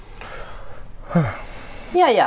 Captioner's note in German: Er seufzt